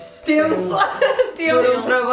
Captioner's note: laughs